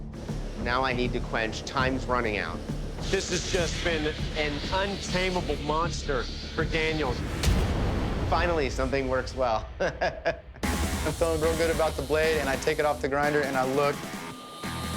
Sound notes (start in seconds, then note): 9.8 laughs